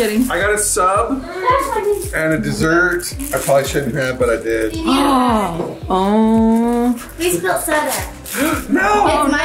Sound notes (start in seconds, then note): 6.2 gasps